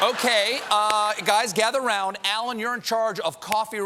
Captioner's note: laughter